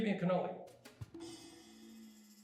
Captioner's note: buzzing